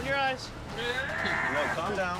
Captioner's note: screaming